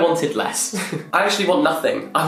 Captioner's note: laughing